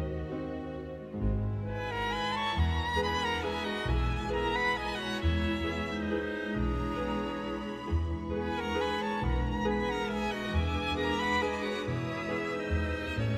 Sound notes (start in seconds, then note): none